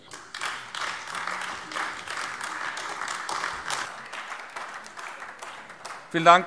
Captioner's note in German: Beifall AfD